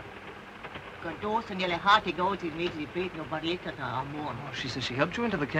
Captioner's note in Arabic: السيدة كومر تتحدث لغة أجنبية